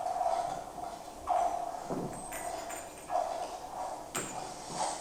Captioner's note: glass clinking